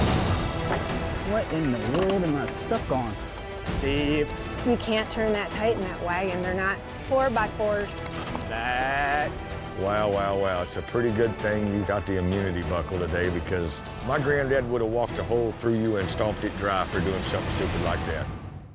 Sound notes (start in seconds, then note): 3.3 calls to horses